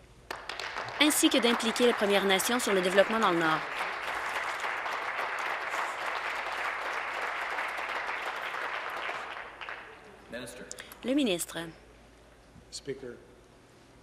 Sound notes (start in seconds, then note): 4.5 applause